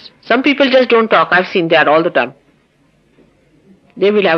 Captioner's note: silence